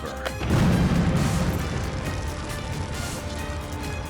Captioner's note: explosion